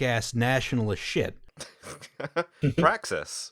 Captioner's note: laughter